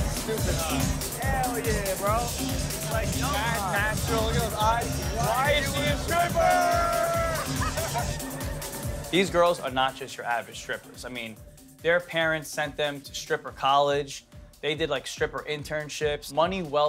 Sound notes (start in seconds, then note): 7.0 all laughing